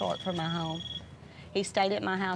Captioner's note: cellphone ringing